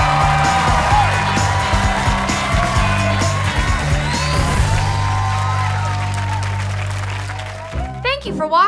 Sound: audience cheering

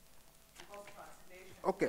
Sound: speaks off microphone

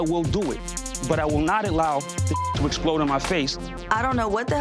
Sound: beep

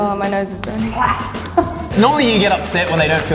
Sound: gags

